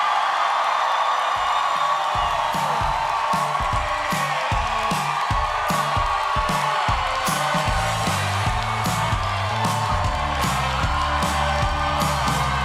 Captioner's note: cheers and applause